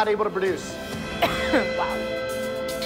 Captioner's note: coughs